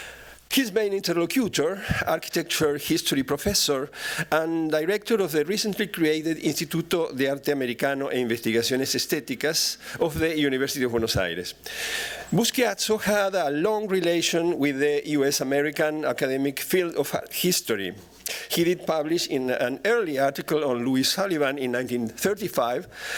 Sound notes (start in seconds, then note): 7.8 non-english speech